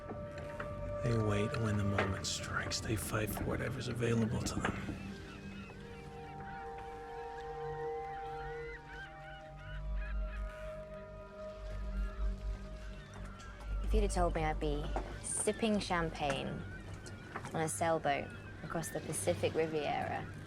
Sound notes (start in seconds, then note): 7.0 seagulls mewing